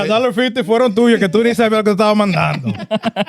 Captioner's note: speaking In Foreign Language; laughing